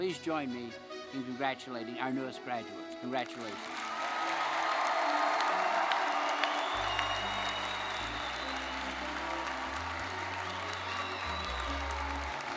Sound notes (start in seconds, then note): 3.6 audience applauding; 4.2 audience cheering; 5.8 audience whistling; 9.3 audience applauding